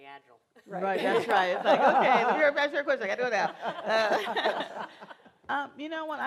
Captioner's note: laughter